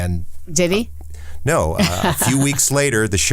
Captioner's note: laughs